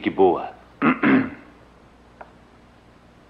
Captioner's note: clears Throat